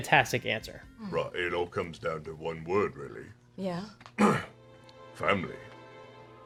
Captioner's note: clears throat